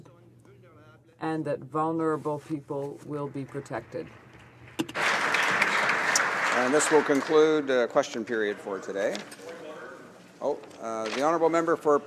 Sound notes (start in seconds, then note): 7.2 some Applause